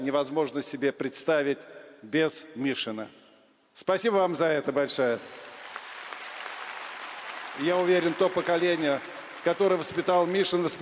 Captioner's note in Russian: аплодисменты